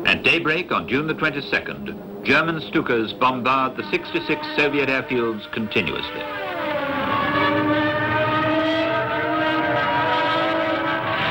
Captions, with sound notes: At daybreak, on June the 22nd, German Stukas bombarded the 66th Soviet airfields continuously. (planes engines whining)